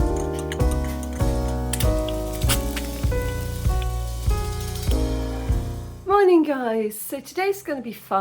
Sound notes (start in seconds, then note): 1.6 chill music; 1.6 egg frying